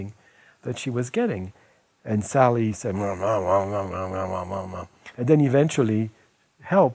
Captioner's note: making growling noises